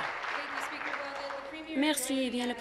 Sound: applause

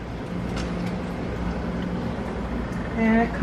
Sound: air con humming

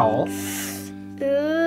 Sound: assistant sucks in breath

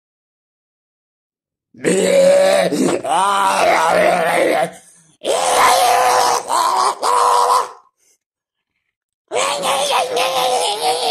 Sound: sound of zombie

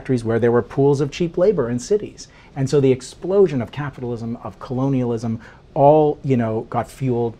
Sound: none

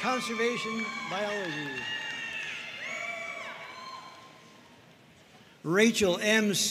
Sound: audience cheering and applauding

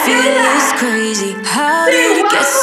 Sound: beeping

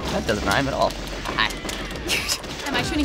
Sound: snickers

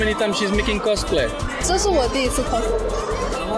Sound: in mandarin

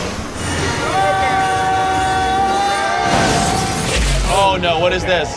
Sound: both screaming

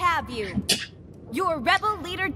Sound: Musky scoffs

